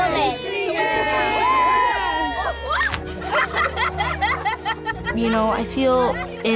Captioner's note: cheers, laughter